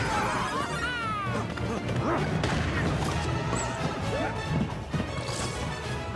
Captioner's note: Super Mario Bros Movie sounds